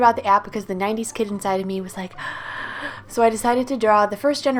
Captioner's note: gasp!